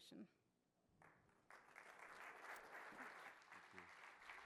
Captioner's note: applause